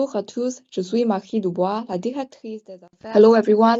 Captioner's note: non-english